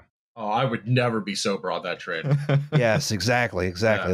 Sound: chuckles

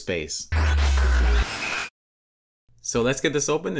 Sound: futuristic sound effect

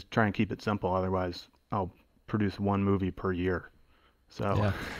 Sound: chuckle

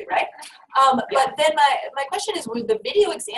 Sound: voiceover

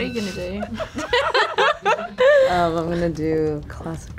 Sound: laughs

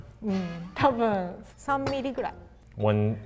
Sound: speaks in foreign language

